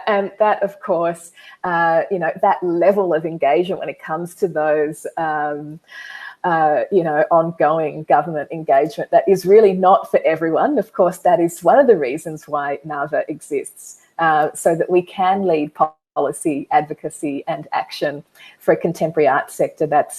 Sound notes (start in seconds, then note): none